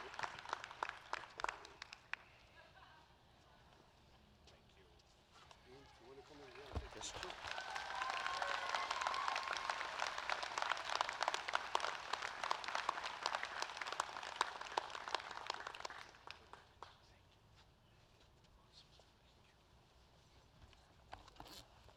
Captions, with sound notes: Performing arts awards a medal of excellence for Distinguished Service to Mr. Nicholas Paleologos. [ APPLAUSE ]